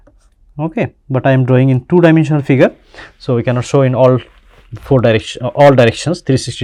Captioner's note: flowing pressure